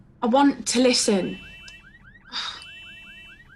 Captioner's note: car alarm blares